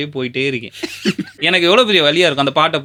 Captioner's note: laughter